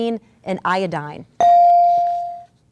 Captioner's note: ding